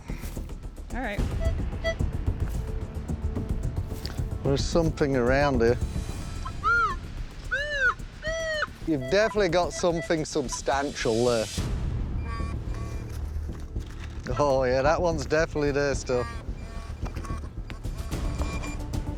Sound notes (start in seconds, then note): 1.8 slight beeping; 6.3 sensor sounding